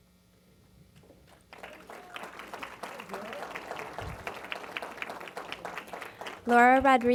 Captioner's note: applause